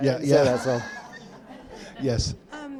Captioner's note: audience laughing